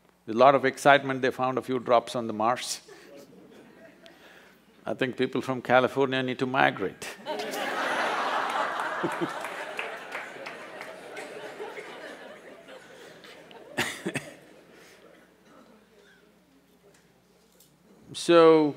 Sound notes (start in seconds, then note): 2.9 few laugh; 6.9 laughter/Applause